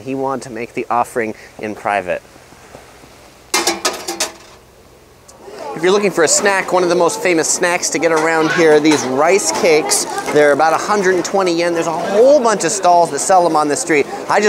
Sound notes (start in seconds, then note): 3.6 coin clinging